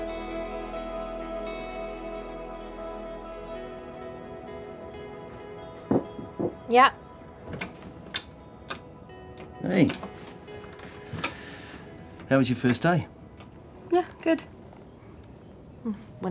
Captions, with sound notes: (door knocking) - Yeah. - Hey. How was your first day? - Yeah. Good.